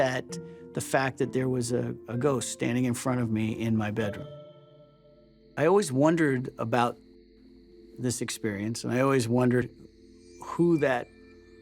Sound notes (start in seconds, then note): none